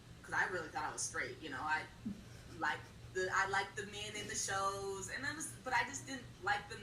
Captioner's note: laughs